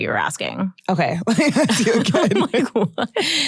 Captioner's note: chuckles